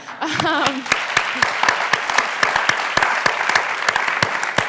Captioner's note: audience applause